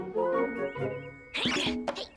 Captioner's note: Milo grunts